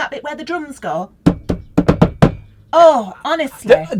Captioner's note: thumps table